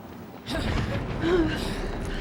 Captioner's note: gasps